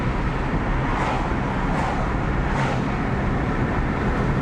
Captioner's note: cars whooshing; car engine humming